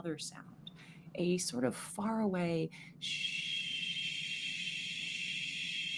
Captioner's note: shushing